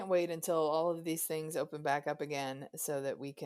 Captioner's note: none